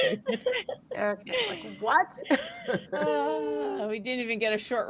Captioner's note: group laughing